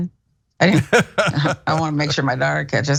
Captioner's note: laugh